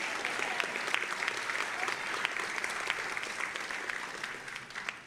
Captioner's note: audience applauding